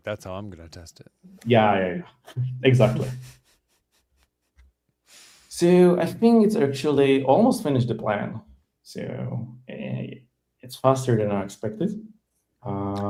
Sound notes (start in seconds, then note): 2.7 laughs